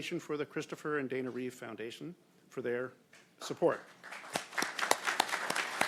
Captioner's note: applause